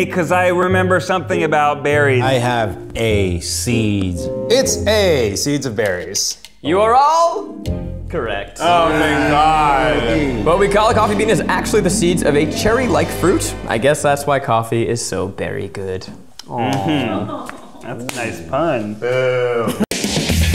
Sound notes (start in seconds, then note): 8.6 all cheering quietly; 16.5 aww; 19.4 boos